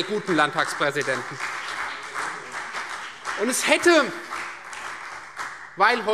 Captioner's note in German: Beifall Freie Demokraten, vereinzelt CDU und BÜNDNIS 90/DIE GRÜNEN